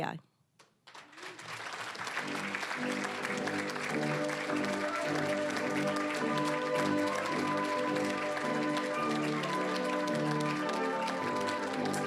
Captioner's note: applause